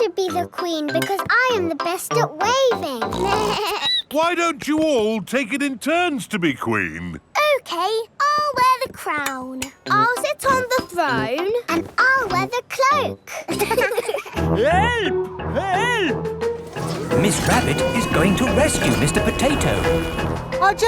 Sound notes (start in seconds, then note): 3.1 snorts; 3.2 bleats; 13.3 laughing